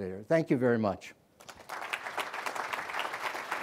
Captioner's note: applause